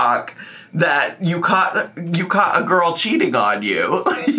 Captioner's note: laughs